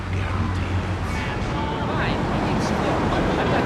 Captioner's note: engine roaring